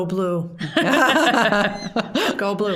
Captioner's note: all laughing